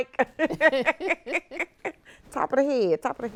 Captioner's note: both chuckling